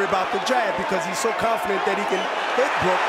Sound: crowd cheering

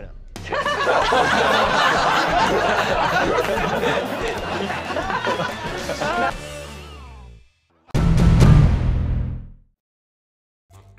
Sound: laughter

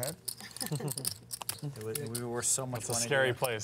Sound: chuckles

